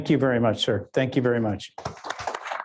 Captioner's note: audience applauding